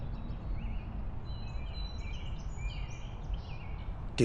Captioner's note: birds twittering